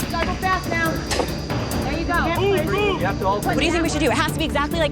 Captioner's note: crowd chattering